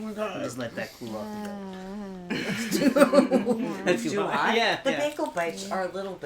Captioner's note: laughter